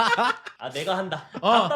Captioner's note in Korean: 웃음